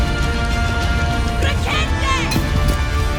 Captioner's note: villagers screaming